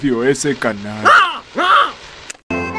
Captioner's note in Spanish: Calamardo quejándose